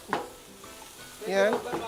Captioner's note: sizzles